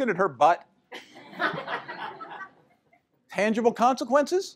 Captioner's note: laughter